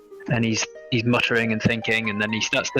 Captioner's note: none